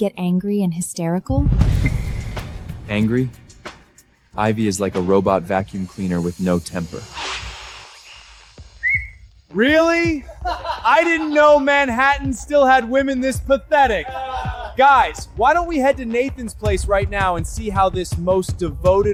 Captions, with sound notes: angry and hysterical? Angry? Ivy is like a robot vacuum cleaner with no temper. [whistling] Really? I didn't know Manhattan still had women this pathetic. Guys, why don't we head to Nathan's place right now and see how this most devoted